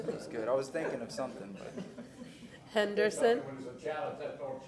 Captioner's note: laughter